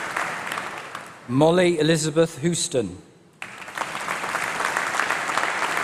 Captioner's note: applause